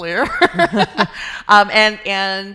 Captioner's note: laughing